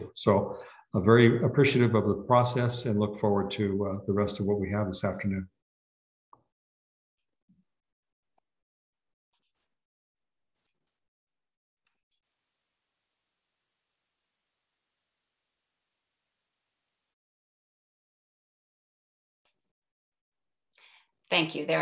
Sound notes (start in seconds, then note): 12.4 silence during transition